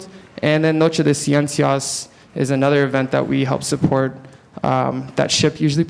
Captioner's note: speaking Spanish